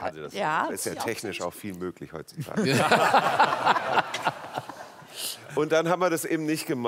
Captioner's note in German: Lachen